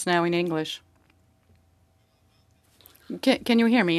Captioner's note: speaking French